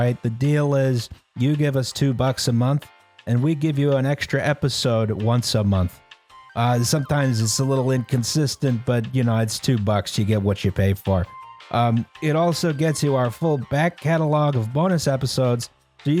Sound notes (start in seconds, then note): none